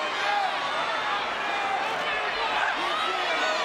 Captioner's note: crowd shouts